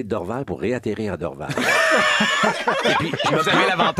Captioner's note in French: rires